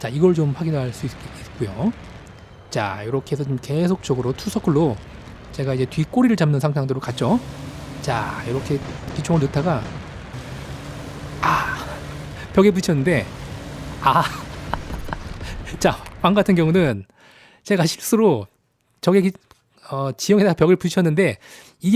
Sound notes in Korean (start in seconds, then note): 14.1 웃음